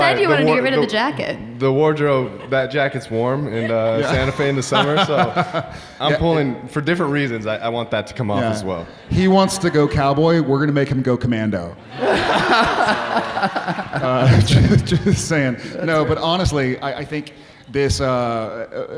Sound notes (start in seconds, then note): 4.8 Jared laughing; 11.8 audience laughing